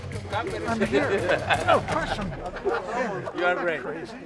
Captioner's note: laughs